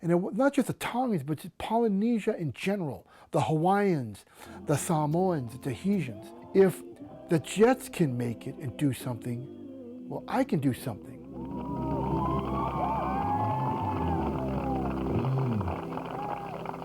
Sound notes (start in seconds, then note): 11.2 crowd cheering